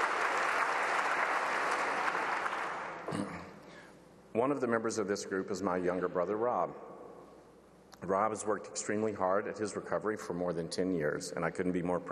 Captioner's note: applause